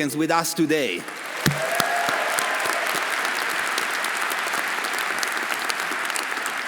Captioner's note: audience applauding; audience cheering